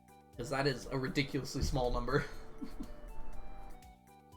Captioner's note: laughs